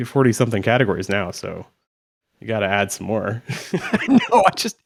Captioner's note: chuckles